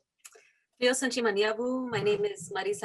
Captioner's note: speaks foreign language